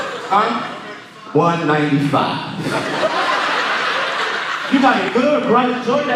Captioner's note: audience laughing; audience laughing